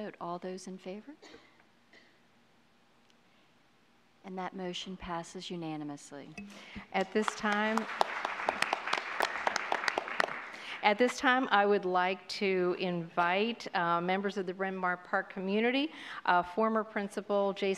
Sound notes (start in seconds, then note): 7.0 applause